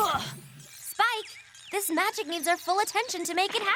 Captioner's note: tweet!